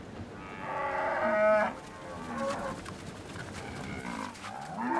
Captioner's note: cows mooing